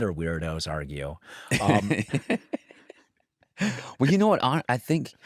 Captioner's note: laughs